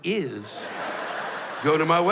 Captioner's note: laughter